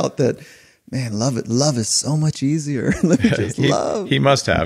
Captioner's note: chuckling